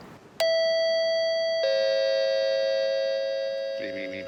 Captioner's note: bell ding-dongs